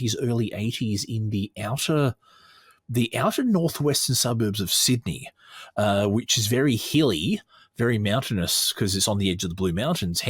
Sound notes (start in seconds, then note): none